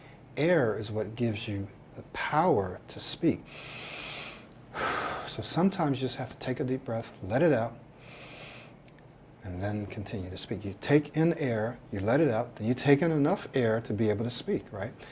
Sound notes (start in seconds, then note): 4.7 deep breath; 8.0 exhales